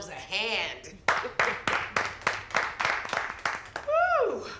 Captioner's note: crowd clapping